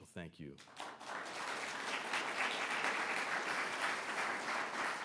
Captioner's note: audience applauds